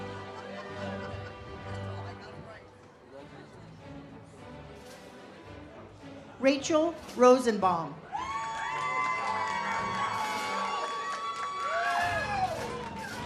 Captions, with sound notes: Rachel Rosenbaum. (audience cheers)